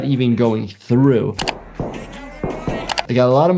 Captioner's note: key clacks